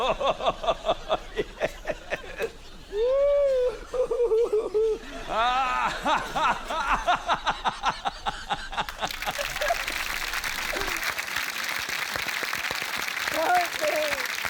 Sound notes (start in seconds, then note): 6.2 continues laughing; 8.8 applause